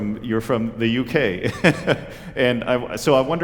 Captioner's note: laughter